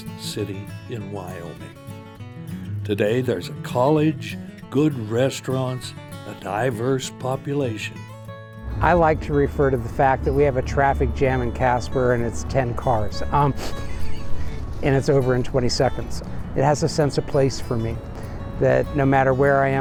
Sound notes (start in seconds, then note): 13.5 snickers